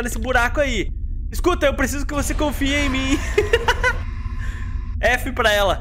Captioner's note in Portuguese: risos